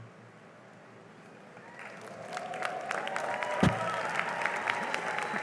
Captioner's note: cheering and applause